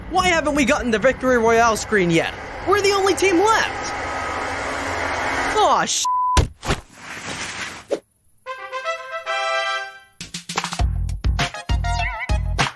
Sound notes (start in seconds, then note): 6.0 beep; 8.8 upbeat music